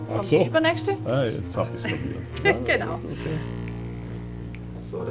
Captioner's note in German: lachend